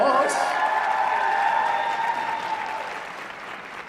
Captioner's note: applause